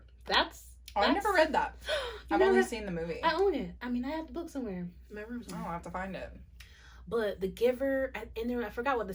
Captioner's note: gasps